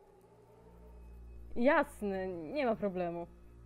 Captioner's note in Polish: mówi udając zadowolonego